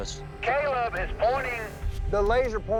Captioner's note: radio